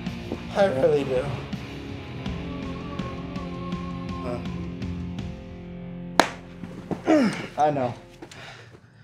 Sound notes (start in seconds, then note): 6.2 clap; 7.0 grunts